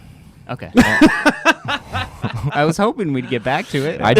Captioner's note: laughs